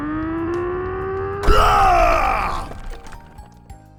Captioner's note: grunting sounds; explosion